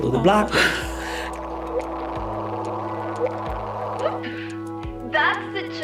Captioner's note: black hole chirping